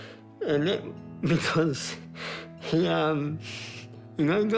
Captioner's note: sniffles